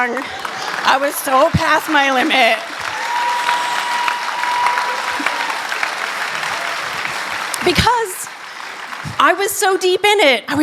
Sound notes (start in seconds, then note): 3.0 applause